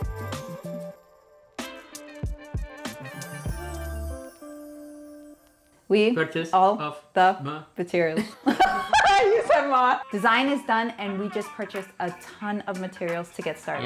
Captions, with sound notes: [Laughter] You said “ma”. Design is done, and we just purchased a ton of materials to get started.